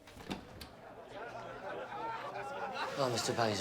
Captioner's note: door opens